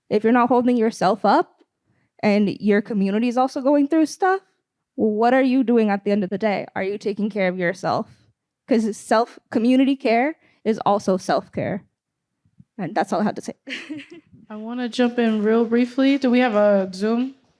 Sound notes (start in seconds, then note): 13.6 laughter